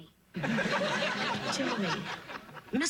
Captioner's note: sitcom laughter